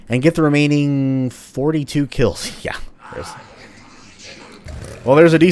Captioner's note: chuckles